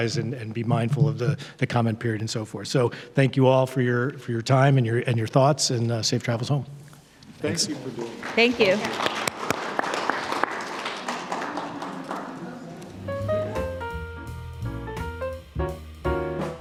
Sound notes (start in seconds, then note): 9.5 audience applauding; 9.5 panel members applauding; 13.0 gentle piano music